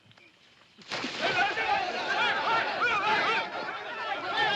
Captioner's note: water splashes; men shouting & clamoring